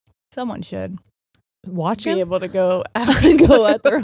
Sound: laughs

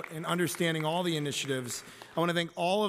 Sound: applause

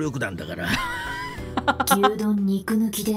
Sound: chuckles

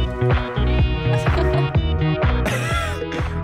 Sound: laughing and moaning; laughing

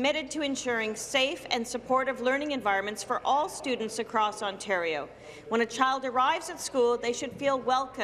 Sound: none

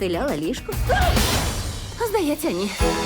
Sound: yelps

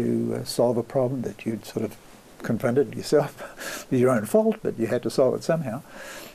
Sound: laughs

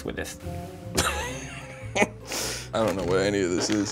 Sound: laughs

